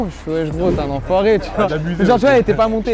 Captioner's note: laugh